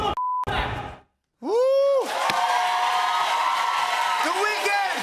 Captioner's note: cheers and applause